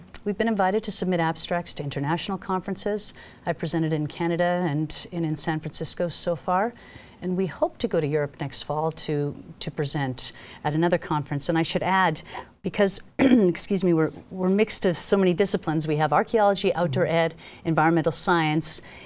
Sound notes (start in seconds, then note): 13.2 clears throat